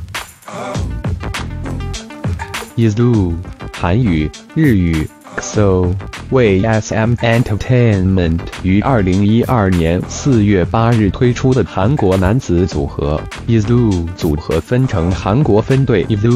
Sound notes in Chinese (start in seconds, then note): 8.8 韓語; 9.8 普通話